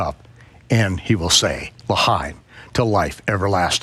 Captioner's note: speaks foreign language